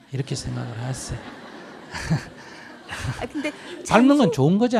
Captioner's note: Audience/Sunim Laughter